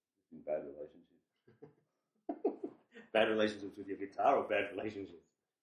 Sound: laughs

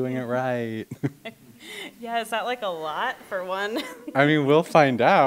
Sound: chuckles; chuckle; laughs

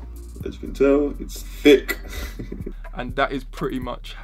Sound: chuckles

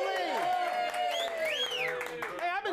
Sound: audience cheering

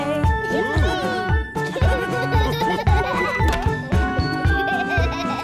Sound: laughter

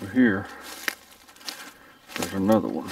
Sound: twigs crunching

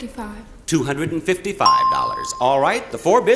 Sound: bell chimes

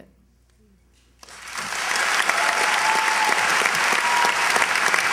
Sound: applause

